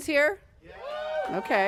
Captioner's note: cheering